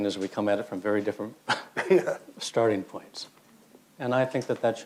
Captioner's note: laughs